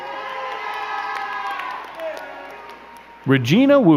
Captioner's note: crowd cheering and clapping